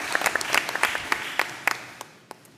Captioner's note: applause